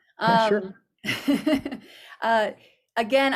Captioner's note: laughs